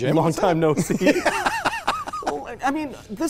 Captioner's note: laughs